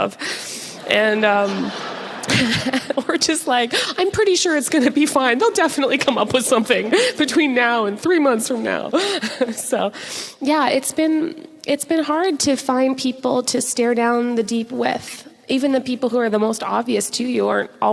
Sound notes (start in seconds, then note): 0.9 audience laughs